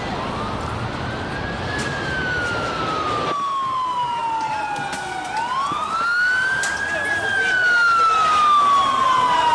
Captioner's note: street sound